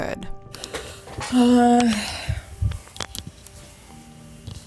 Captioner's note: exhales audibly